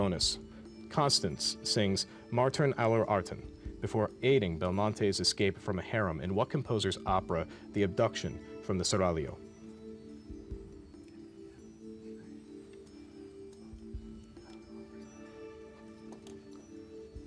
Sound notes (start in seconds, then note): 13.8 whispering